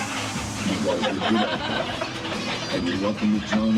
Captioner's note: guests laughing